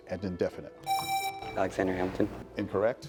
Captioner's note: presses buzzer